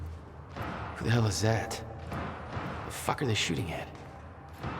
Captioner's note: hears more gunfire